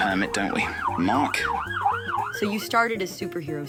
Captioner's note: siren wailing